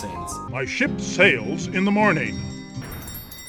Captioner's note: dinner bell sound